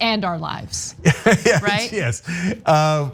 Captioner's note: laugh